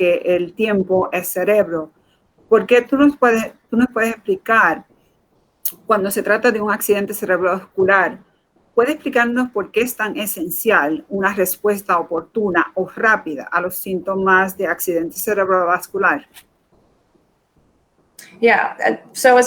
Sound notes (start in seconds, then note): 1.3 speaking in Foreign Language